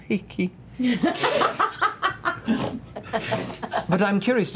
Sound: laughter

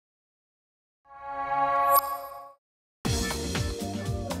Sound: chime; upbeat music

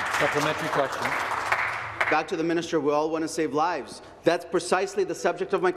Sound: applause

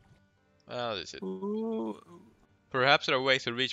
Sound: oooh

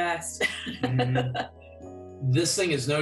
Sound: laughter

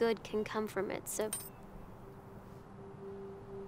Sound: metal clinks; soft suspenseful music

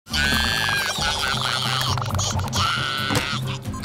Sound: crying

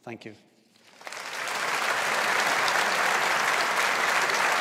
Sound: audience applauds

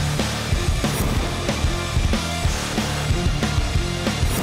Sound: whooshing

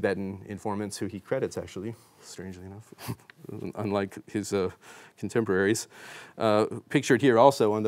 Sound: chuckles

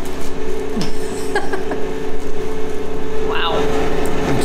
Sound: laughing

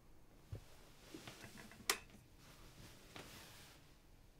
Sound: light clicks

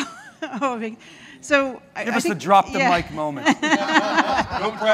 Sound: laughing

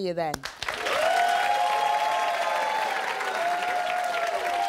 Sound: audience applauding

